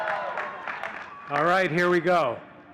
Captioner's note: audience cheering and clapping